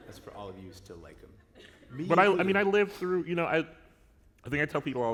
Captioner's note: laughter